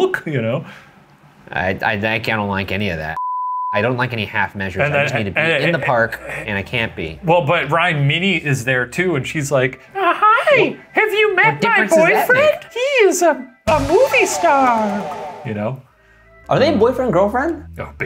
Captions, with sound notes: You know? - I don't like any of that. (beeping) I don't like any half measures. I just need to be in the park and I can't be. - Well but Ryan, Minnie is there, too, and she's like, hi! Have you met my boyfriend? He's a movie star! You know? - Are they boyfriend and girlfriend?